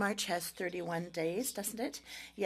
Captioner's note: speaking French